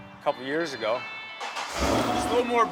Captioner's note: engine revving